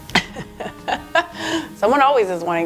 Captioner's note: laughs